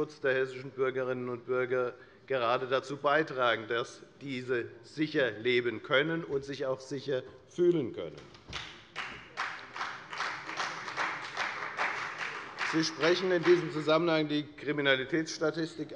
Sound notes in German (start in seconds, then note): 8.5 Beifall bei der FDP